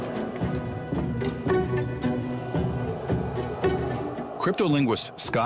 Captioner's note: suspenseful music continues; wings fluttering; creature howling